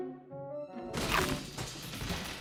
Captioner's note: crash